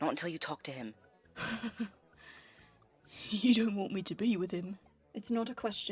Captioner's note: James laughs